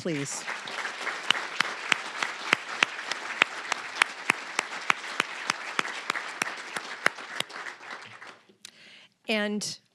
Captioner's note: applause